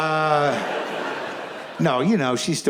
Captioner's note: audience laughs